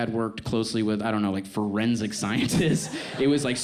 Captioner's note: laughs